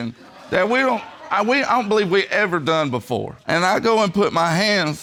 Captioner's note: stammers